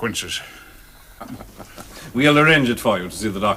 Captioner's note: chuckles